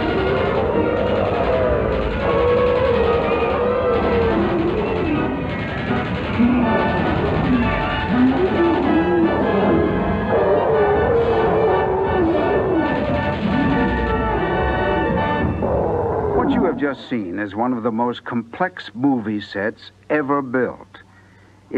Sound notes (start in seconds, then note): 0.0 King Kong Growls; 6.9 King Kong Growls; 12.4 maching gun sounds